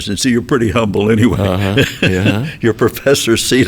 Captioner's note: chuckles